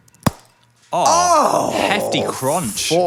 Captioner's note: ball crunching